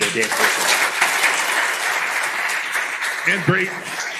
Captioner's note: applause